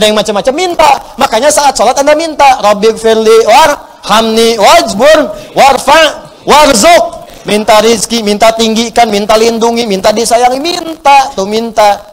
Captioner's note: reciting dua